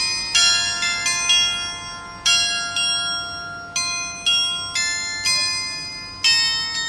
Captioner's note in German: glocke